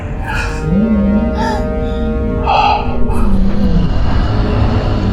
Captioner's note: mysterious roaring